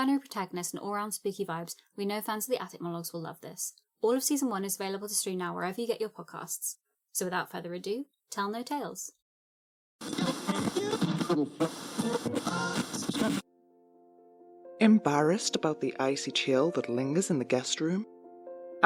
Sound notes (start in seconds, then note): 10.0 radio static plays, scanning through various channels; 13.7 heartfelt corporate music plays